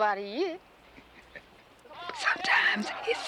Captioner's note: chuckles